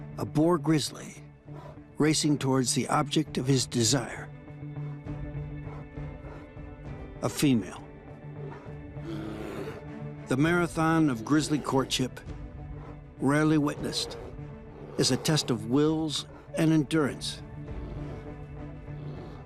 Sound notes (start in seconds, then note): 4.9 bear huffs; 9.1 bear growls